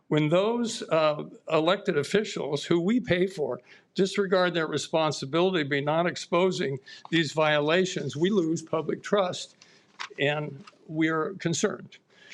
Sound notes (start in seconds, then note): none